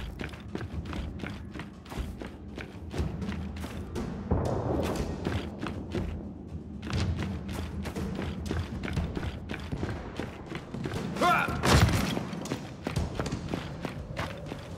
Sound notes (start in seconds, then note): 0.3 footsteps; 4.9 gunshot; 8.4 footsteps